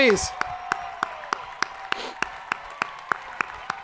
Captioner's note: crowd applauding